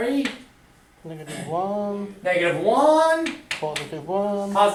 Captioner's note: voiceover